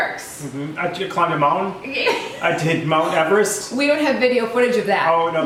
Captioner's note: laugh